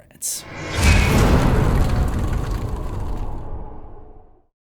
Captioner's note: impact